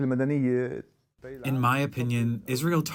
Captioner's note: through translator